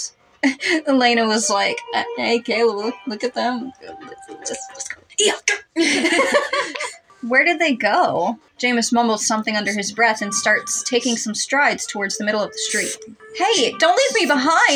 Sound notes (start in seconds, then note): 0.6 chuckle; 5.8 both Laugh